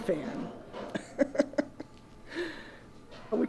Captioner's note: laughs